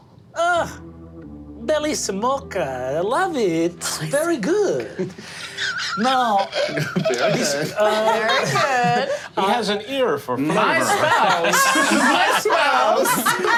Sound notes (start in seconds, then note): 10.5 group laughing